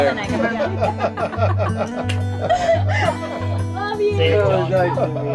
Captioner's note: laughing